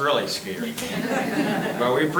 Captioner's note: members chuckling